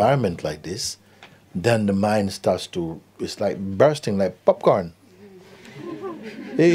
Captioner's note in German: Lachen